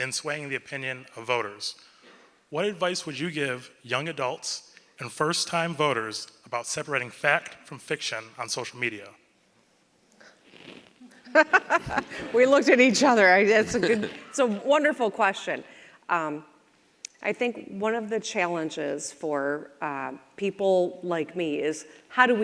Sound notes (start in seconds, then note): 11.2 governor laughs